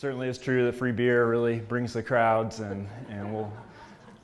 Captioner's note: laugh